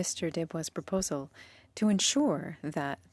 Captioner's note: speaking French